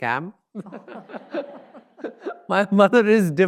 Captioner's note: audience laughs; laughs